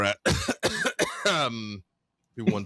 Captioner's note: cough cough